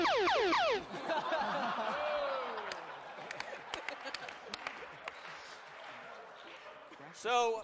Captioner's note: laughter